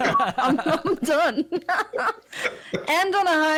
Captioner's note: appreciative laughter; giggling